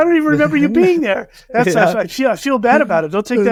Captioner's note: laughter